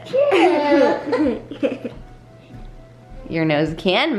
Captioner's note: kids laughing